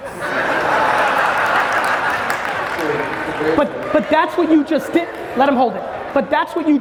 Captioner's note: audience laughs